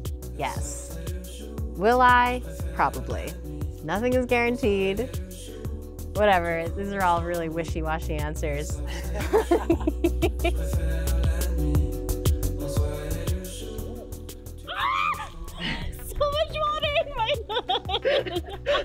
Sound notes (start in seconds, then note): 14.6 screams